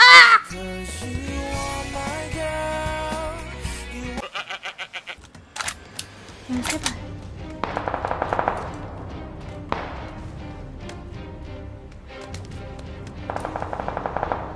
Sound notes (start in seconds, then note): 5.6 click click